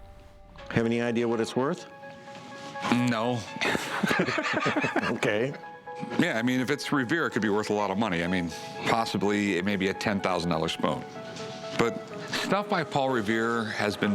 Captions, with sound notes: Have any idea what it's worth? No. [laughter] OK. Yeah, I mean, if it's Revere, it could be worth a lot of money. I mean, possibly it may be a $10,000 spoon. But stuff by Paul Revere has been faked forever.